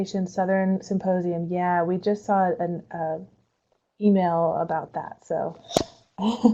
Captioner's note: laughs